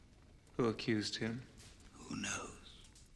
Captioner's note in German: none